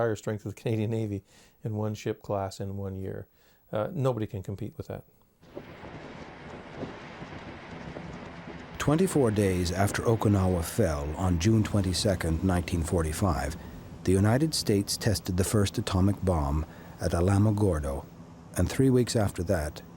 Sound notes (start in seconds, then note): 5.9 wind howling